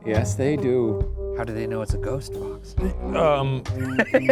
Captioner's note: laughs